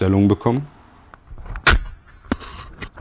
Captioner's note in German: Dumpfer Knall